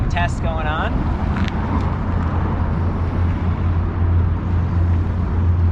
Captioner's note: car engine roaring